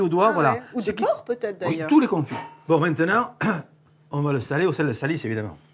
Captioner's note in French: raclement de gorge